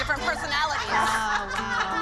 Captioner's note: laughter